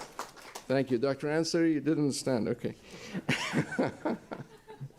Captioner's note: laughter